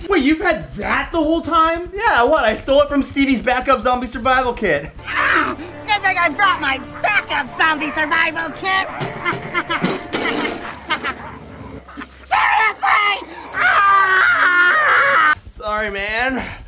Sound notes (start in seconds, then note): 5.0 yells; 12.2 screams